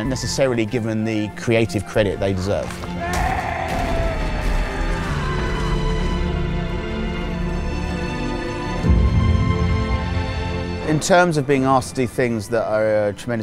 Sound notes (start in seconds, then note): 2.9 screaming; 6.2 sad music